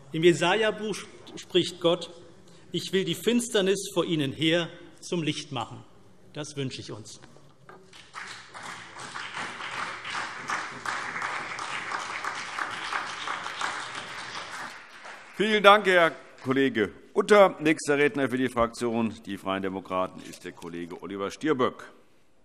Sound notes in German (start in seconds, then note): 7.8 Beifall CDU und BÜNDNIS 90/DIE GRÜNEN